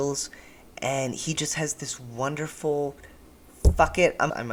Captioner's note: thud